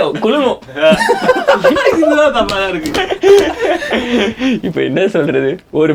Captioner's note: group laughs